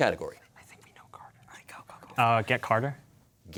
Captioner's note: players whispering